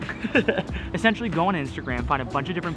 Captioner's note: laughs